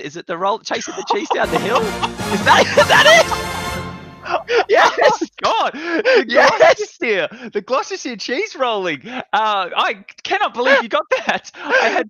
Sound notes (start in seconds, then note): 0.8 victory music; 4.2 both laughing